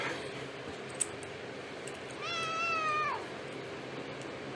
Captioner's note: Caprice meows